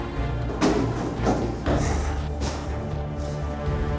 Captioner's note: gasps